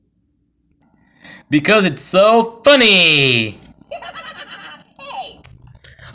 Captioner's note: laughing